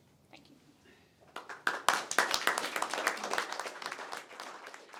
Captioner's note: audience applauding